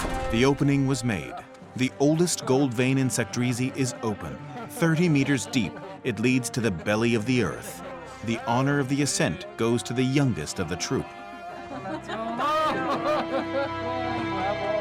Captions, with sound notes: The opening was made. The oldest gold vein in Sakdrissi is open. Thirty meters deep, it leads to the belly of the earth. The honor of the ascent goes to the youngest of the troop. [cheering, laughter]